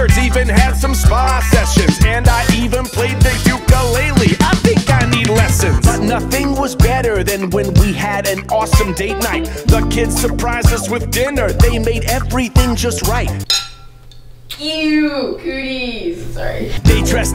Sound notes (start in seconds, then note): 13.4 clinks